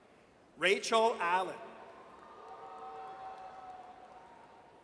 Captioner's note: audience cheers